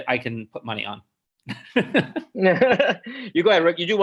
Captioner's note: chuckles